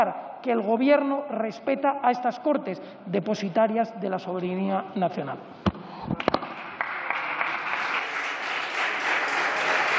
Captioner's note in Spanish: Aplausos